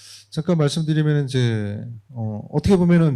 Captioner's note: speaking korean